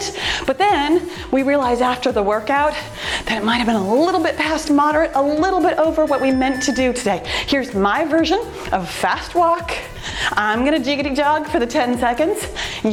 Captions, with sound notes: but then we realize after the workout that it might've been a little bit past moderate, a little bit over what we meant to do today. (timer beeps) Here's my version of fast walk. I'm going to jiggity jog for the 10 seconds.